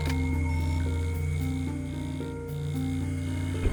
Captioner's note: machine beeps